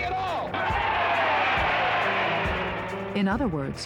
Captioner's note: cheering